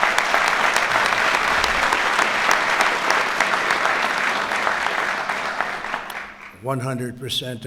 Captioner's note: applause